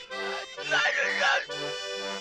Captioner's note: onion sobbing; happy music